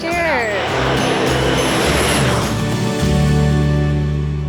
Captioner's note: plane whooshing